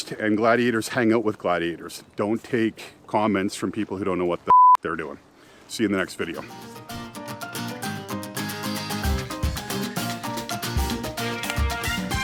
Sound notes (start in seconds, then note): 4.5 beep; 6.5 upbeat music